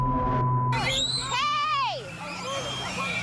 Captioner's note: children screaming